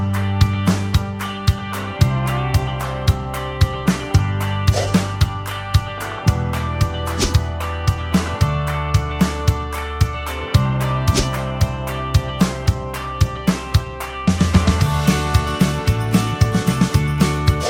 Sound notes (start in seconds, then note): 4.7 swish; 7.1 whoosh; 11.1 swish; 17.4 swish